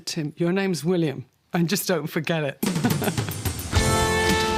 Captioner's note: laughs